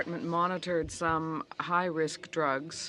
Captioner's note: speaking French